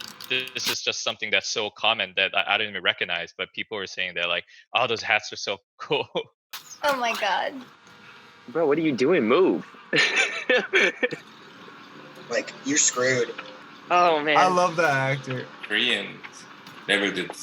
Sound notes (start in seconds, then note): 5.8 chuckles; 9.9 laughs